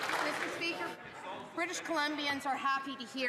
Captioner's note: some Applause